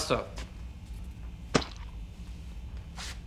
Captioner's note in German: Splatsch